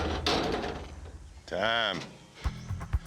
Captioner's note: gates close